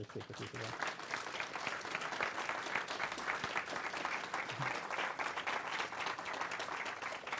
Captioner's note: applause